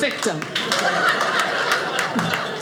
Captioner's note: audience laughing